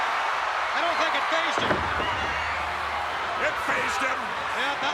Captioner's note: applause